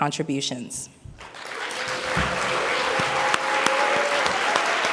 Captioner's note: audience applauds